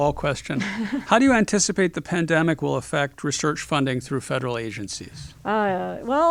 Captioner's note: laugh